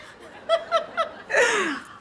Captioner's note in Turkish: Gülme sesi